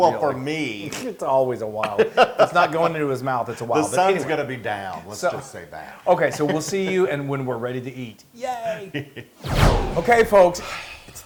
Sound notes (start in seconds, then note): 1.8 laugh; 4.4 laugh; 6.2 laugh